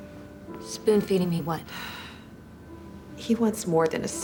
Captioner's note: sighs